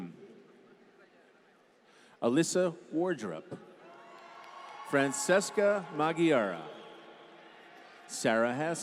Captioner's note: applause